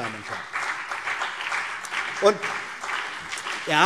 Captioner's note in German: Beifall BÜNDNIS 90/DIE GRÜNEN und vereinzelt CDU